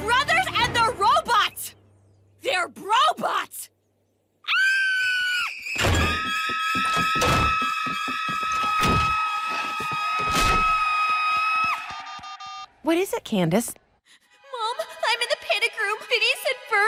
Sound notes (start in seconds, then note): 4.4 screaming; 9.9 screaming continues; 12.2 telephone dials